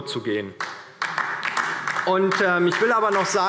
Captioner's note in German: Beifall DIE LINKE